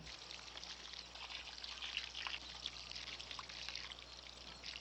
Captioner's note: water splattering